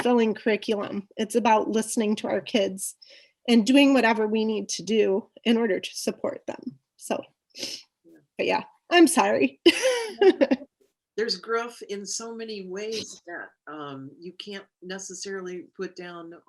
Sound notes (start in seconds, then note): 9.7 laughs